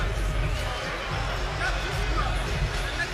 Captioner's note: speaking softly